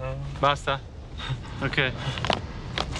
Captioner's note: in Italian